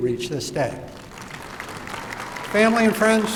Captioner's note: applause